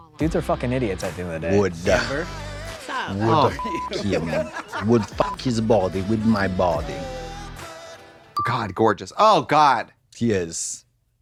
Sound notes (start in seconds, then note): 3.5 beep